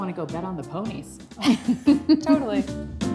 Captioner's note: laughs